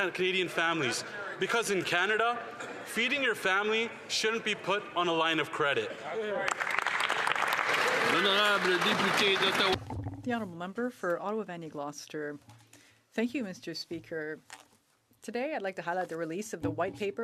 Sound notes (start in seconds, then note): 10.2 applause